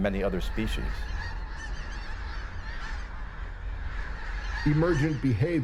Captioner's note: geese call